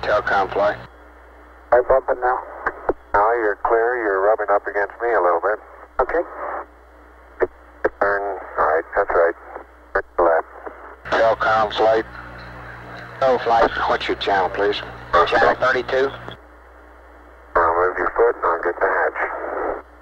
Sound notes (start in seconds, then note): 0.1 mission Control Audio; 10.9 mission Control Audio